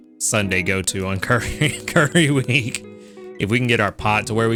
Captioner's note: laughs